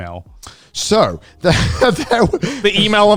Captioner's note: laughing